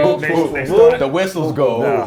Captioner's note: laugh